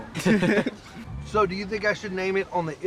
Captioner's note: laughter